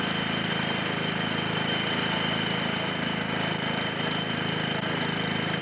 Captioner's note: motor continues puttering